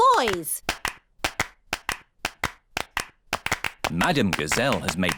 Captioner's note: all clapping